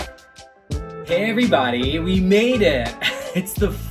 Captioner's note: laughs